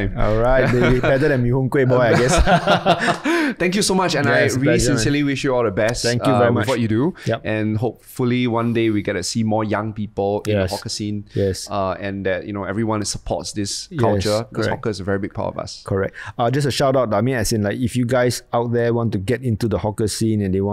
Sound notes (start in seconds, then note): 1.9 both laugh